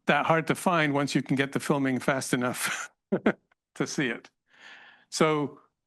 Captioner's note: laughs